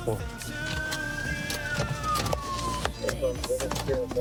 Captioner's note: sirens blaring